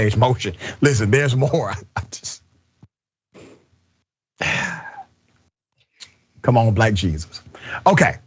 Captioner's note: laugh